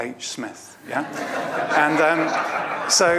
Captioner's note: audience laughs